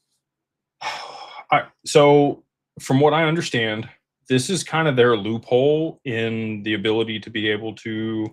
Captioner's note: sighs